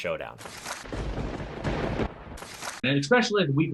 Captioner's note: thunder rumbling